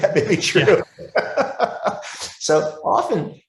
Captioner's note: laughing